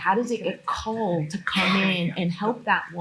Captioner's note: attendee coughing